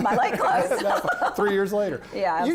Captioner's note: laughs